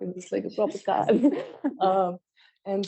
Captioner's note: laughter